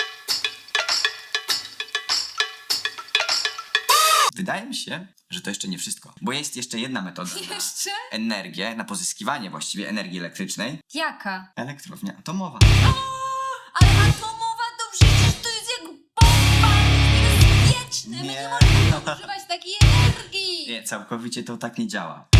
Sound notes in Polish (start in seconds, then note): 0.0 bez przekonania; 0.3 wesoła muzyka współczesna; 12.6 krzyk